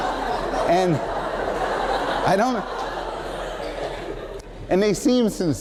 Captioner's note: laughter